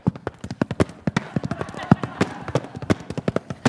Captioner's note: laughter